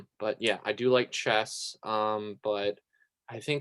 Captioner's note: none